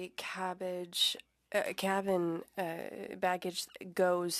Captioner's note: speaking French